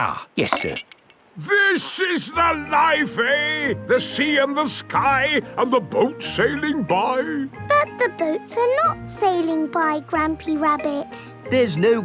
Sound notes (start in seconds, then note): none